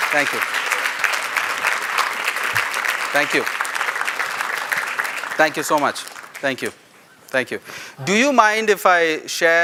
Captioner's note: applause